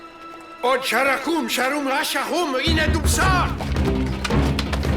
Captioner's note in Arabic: الصوت المنطوق البدوي